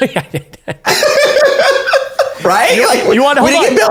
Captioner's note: laughing